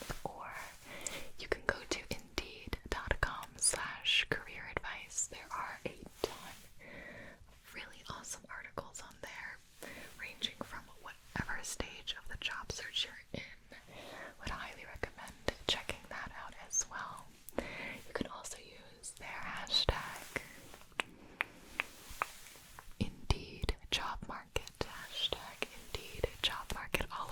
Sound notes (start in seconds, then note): 20.3 clicking